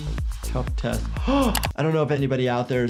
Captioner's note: gasps